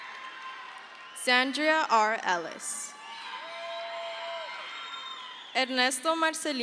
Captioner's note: crowd cheers